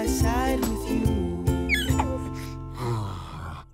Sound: squeals; sighs

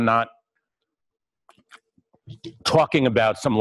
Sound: pause

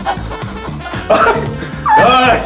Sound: laughing

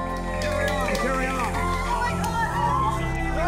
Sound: cheering

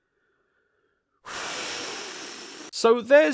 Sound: exhaling

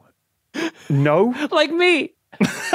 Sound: wheezes; group laughing

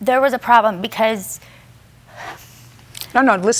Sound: breathes heavily

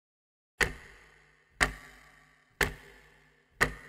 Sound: clock ticking

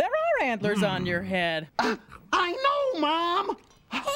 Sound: huffs

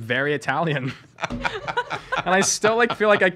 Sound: laughing

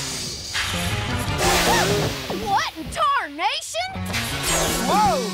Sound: yelps

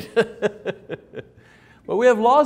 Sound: laughs

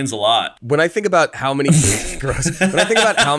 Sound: laughs

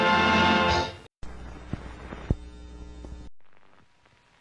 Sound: old film static

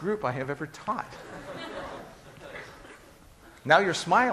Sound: class laughing

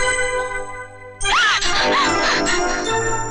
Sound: scream

